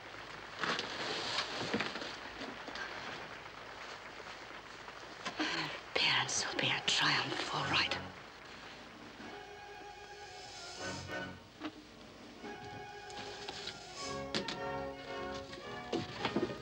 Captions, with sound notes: (audience applauds) - Her appearance will be a triumph, all right. (whimsical orchestral music)